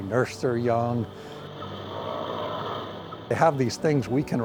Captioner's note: whales calling